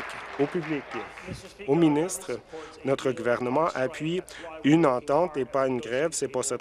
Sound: applause

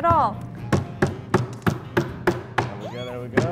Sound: tapping; squealing

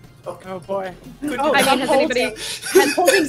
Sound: overlapping chatter and laughter

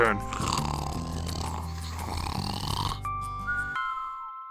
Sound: snoring loudly

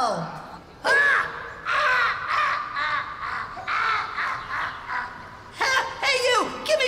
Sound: laughing

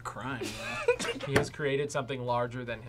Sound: both laugh

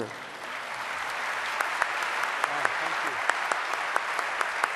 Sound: audience applause

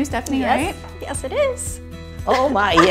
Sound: laughs

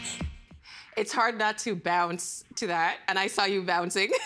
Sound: laughter

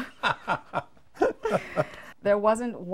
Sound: laughing

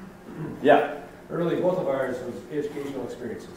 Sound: voiceover

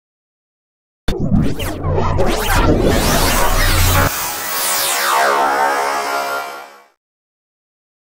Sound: sound of morph

